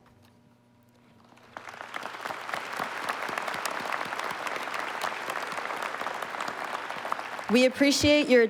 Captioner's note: applause